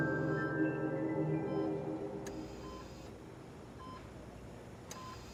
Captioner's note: machines beeping